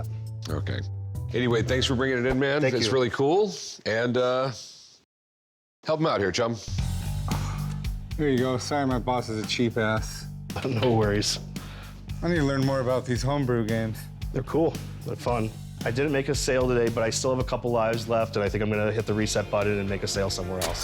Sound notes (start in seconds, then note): 7.0 exhales